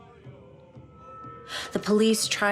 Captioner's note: voices chant; drums beating